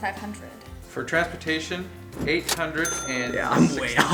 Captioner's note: male Voice